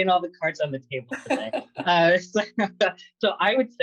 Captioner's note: laughter